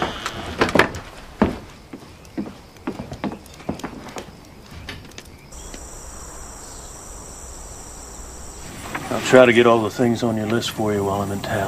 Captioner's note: doorCloses